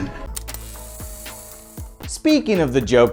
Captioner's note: tape whirring